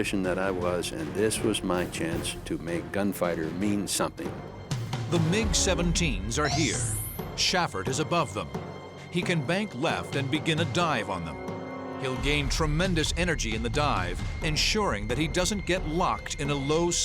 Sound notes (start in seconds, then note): none